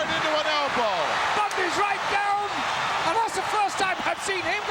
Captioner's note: audience cheering